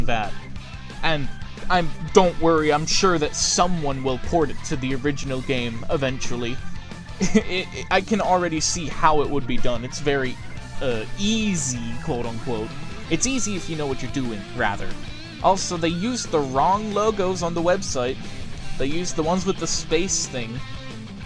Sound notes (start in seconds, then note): 7.2 chuckle